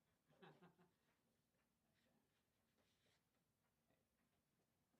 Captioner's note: chuckles